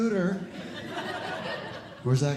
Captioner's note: audience Laughing